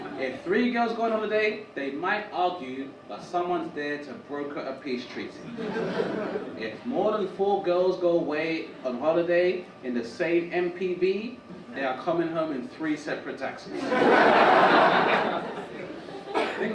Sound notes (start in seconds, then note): 5.4 audience chuckle; 13.7 audience laugh